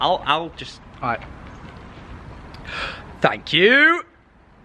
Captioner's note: deep breath